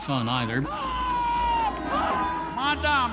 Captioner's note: screaming